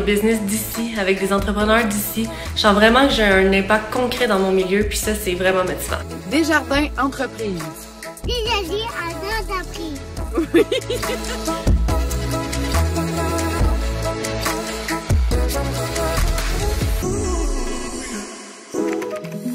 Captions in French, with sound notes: au développement des business d'ici, avec des entrepreneurs d'ici. Je sens vraiment que j'ai un impact concret dans mon milieu, et ça, c'est vraiment motivant. - Desjardins Entreprises. - Desjardins en Entreprises! (rires)